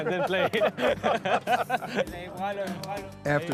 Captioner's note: laughing